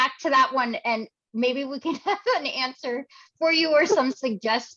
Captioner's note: chuckles